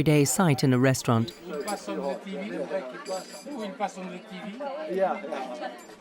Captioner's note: people chattering